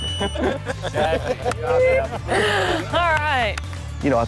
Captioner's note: lalaugughthterer